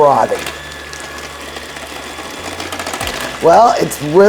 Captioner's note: mixer whizzing